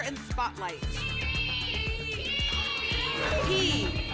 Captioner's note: audience shouting letters